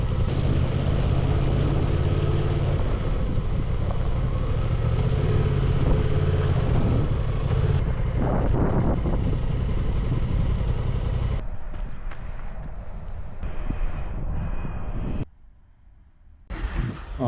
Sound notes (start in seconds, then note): 4.2 that scary electric hum